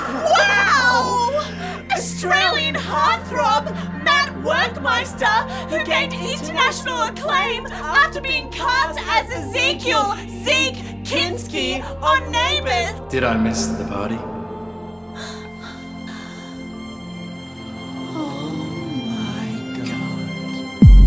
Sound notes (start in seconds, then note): 14.9 soft music; 15.1 both gasping; 20.8 dramatic music